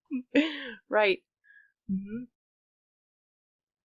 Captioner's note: laughing